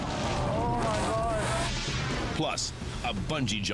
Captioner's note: air whooshes